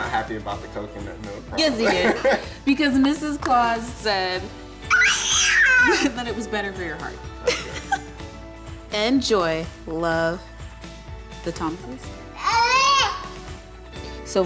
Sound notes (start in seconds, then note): 7.4 giggles